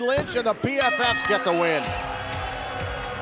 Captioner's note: bell dinging; upbeat music